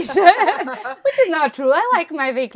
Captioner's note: all laughing